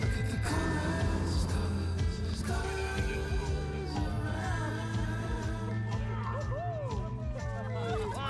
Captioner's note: laughs